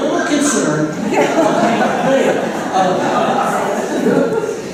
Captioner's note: laughter